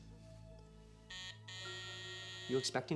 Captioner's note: doorbell buzzes